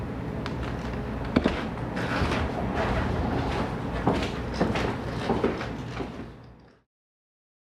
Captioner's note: footsteps, floor creaks